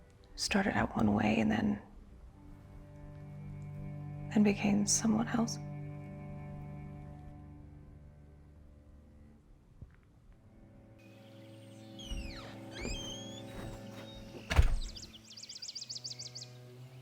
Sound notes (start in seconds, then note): 6.9 soft dramatic music; 11.8 birds chirping; 11.8 door creaking; 14.4 door thuds